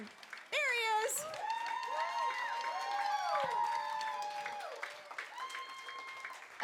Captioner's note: cheering